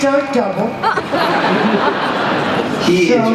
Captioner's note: laughter